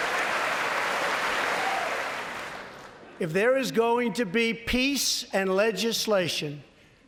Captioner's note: applause